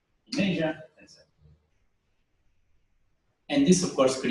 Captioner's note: pause